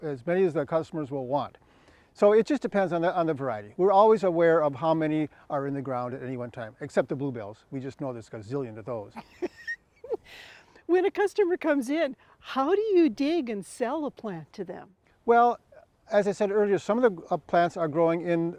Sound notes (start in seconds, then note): 9.2 laughs